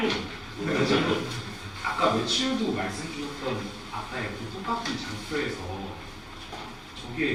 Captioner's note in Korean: 목을 가다듬음